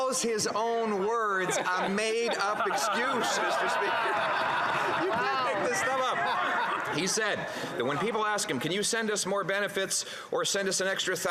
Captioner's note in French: voix de l'interprète